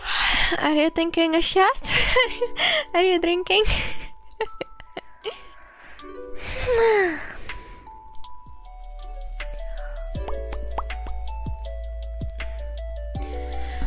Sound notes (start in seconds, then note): 10.2 pop Pop Pop